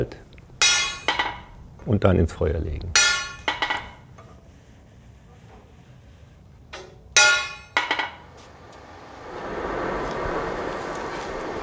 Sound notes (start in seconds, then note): 0.6 metal hammering; 2.9 metal hammering; 6.7 metal hammering; 8.4 fire roars